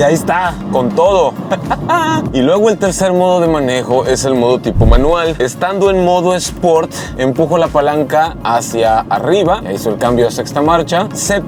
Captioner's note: laugh